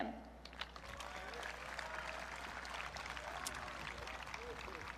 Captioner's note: audience clapping